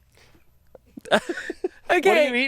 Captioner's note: laughs